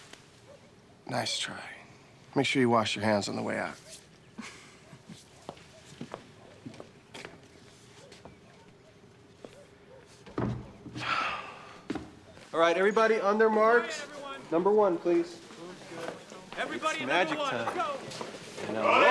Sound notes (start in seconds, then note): 4.3 chuckles; 10.9 sighs